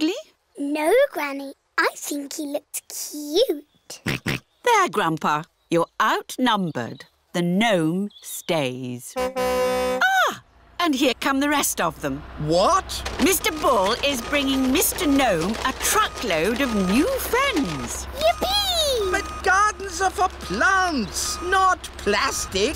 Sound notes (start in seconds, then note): 3.7 oinks; 9.1 car horn tootles